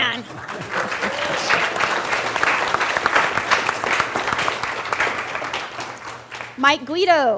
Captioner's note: cheer and Applause